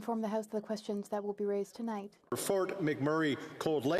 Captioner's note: speaking French